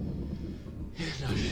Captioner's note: inhales